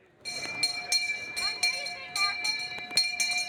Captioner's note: bell ringing